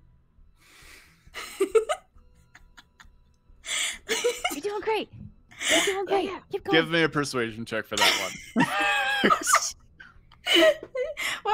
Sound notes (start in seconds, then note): 1.6 players laughing; 8.0 players laughing